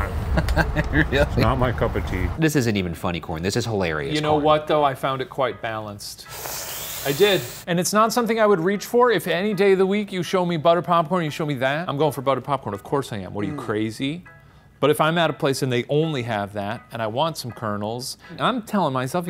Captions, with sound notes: - But it's not my cup of tea. - This isn't even funny corn. This is hilarious corn. - You know what, though? I found it quite balanced. (inhales) I did and it's not something I would reach for. If any day of the week, you show me butter popcorn and you show me that, I'm going for butter popcorn. Of course I am. What are you, crazy? But if I'm at a place and they only have that and I want some kernels and I'm telling myself,